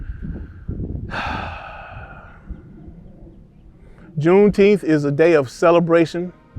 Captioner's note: sighs